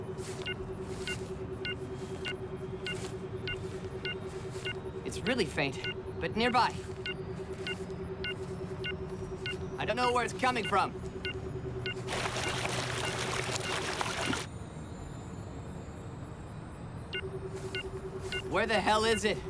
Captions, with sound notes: IT'S REALLY FAINT... BUT NEARBY. I DON'T KNOW WHERE IT'S COMING FROM. [BEEPING CONTINUES] WHERE THE HELL IS IT?